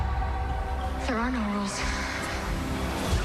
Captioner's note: shouts